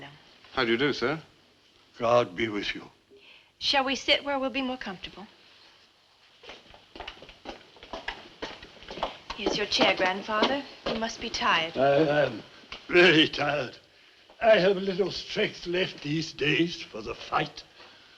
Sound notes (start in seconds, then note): none